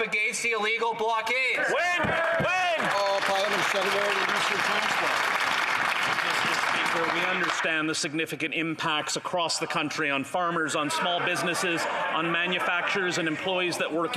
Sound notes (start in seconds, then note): 6.0 applause